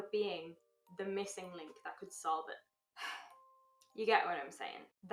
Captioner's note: sigh